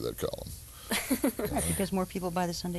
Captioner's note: laughing